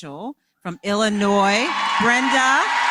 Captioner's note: applause